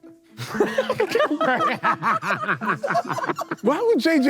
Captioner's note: Sidemen laugh